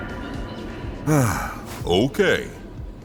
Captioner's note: sigh